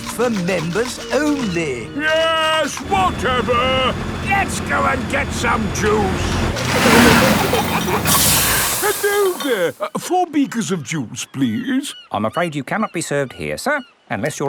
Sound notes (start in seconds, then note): 6.0 peppa and george giggling; 7.0 air hisses